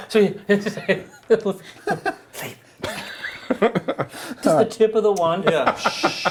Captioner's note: giggles